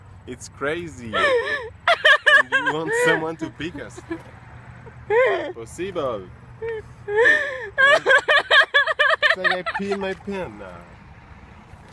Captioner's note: laughs